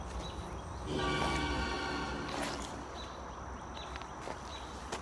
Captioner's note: regular Train Horn